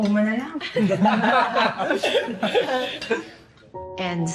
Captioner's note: laughter